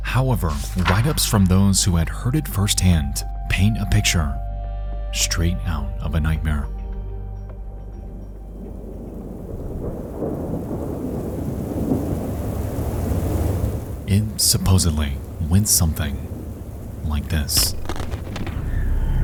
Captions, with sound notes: However, writeups from those who had heard it firsthand paint a picture straight out of a nightmare. (thunder rumbling) (rain pattering) It supposedly went something like this.